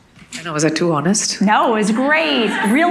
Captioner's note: audience laughing